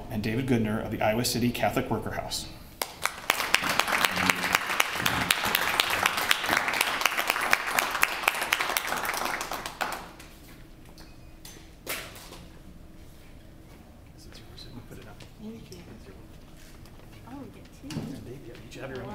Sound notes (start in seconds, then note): 2.8 applause